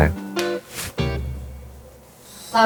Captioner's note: interview begins with a clap